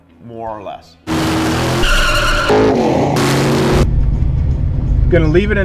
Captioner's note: engines rev loudly